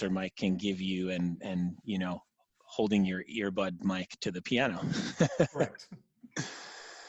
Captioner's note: laughing